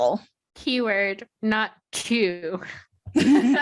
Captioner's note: laughter